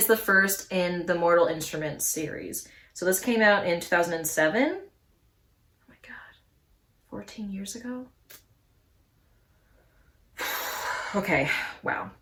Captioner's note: big exhale